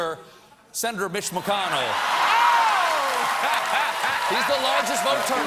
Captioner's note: applause